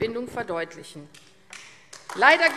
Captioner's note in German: Beifall AfD